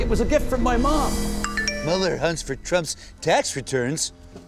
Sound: ping

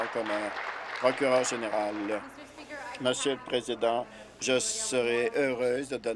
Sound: applause

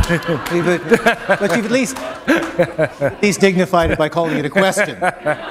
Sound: laughter

